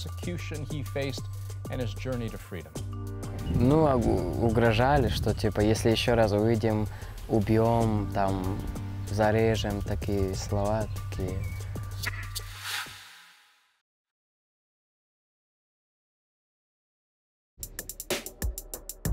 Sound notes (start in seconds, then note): 6.8 speaking russian